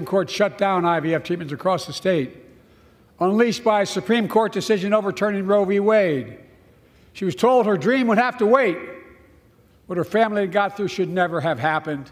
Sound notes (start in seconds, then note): none